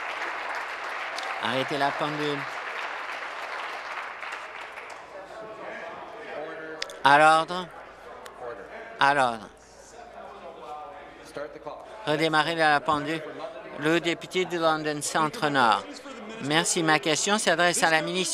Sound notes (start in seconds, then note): 1.9 applause